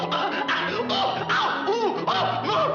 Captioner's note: pant pant